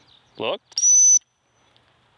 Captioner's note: whistle